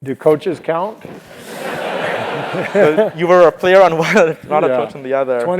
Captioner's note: laugh